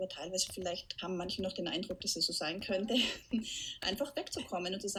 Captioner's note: laughs